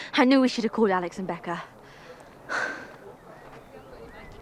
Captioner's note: exhales